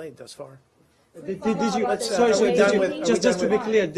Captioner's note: reporters chatter